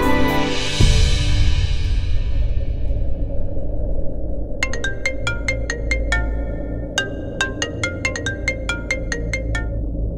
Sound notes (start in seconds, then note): 4.6 Phone ringing